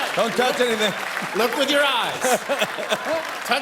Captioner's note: laughter